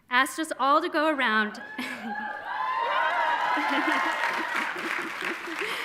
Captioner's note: audience cheering and applauding